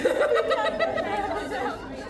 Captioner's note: laughing